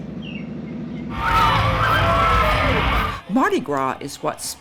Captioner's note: people cheering